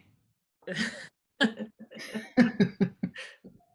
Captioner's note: gentle laugher